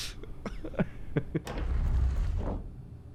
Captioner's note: door opens